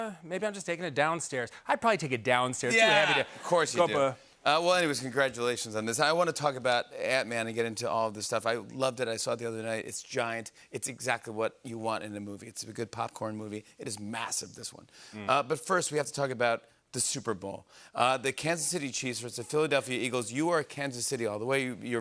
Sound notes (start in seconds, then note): 2.6 laughter